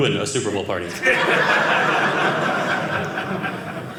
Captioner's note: audience laughing